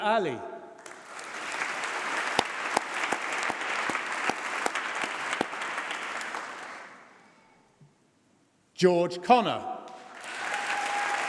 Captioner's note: applause